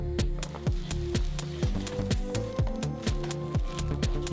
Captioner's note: rips tape from bag; bag rustling